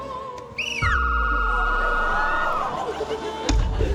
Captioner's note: opera music; whistle trills